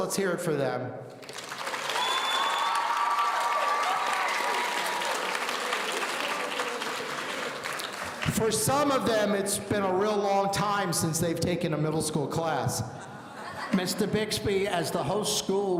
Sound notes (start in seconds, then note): 1.4 audience cheering